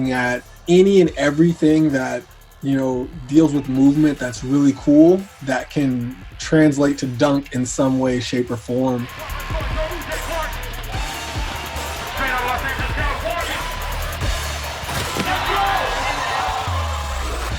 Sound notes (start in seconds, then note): 9.5 announcer chattering; 14.6 crowd cheering